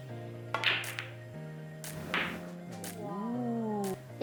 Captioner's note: upbeat music; ball bouncing